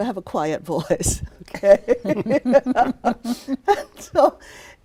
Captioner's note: laughs